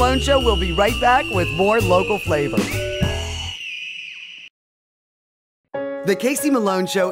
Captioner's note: screaming